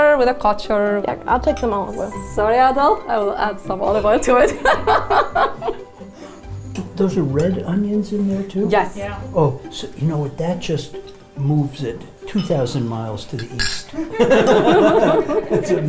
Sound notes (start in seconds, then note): 6.3 laughs; 13.9 all laugh